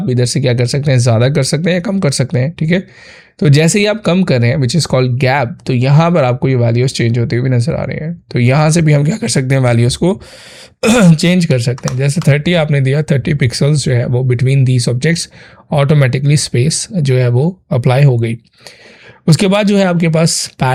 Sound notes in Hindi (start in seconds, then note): 10.8 गला साफ़ करने की आवाज़